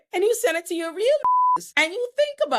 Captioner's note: beep